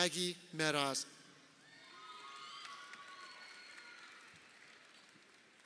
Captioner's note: crowd cheering